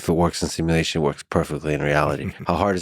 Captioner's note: laughs